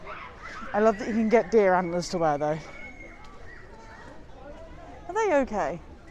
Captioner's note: someone yelling in the background; screaming intensifies